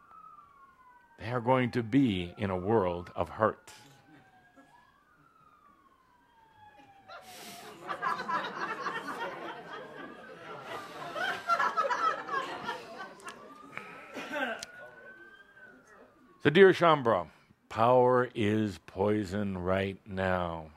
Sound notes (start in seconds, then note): 4.9 laughter as emergency sirens go by in the background